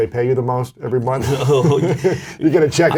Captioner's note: laughs